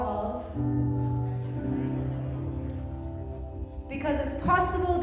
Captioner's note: group muttering